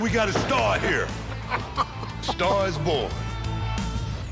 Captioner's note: laughs